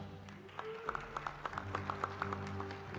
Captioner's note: applause